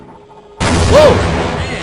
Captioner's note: boom